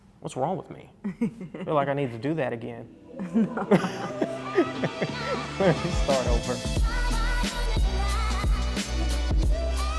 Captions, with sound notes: What's wrong with me? Feel like I need to do that again. (laughing) Start over. (upbeat music)